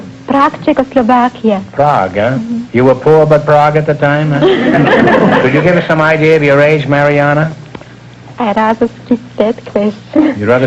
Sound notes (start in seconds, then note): 4.4 laughter